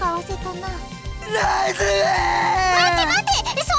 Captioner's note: blubbering